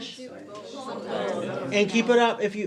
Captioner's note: crowd